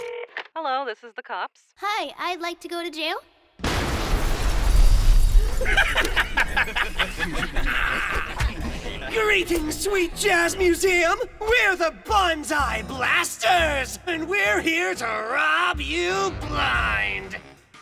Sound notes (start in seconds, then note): 3.6 explosions!; 3.6 sounds of glass breaking; 5.4 evil laughter